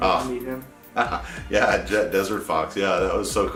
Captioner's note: laughing